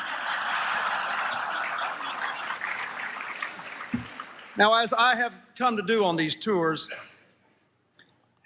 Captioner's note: applause, Laughter